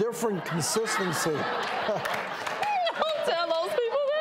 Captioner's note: audience laughing